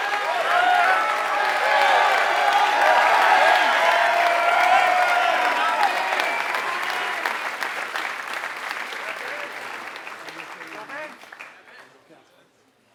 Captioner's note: applause